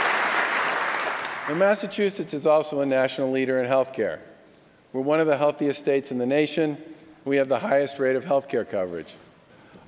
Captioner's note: applause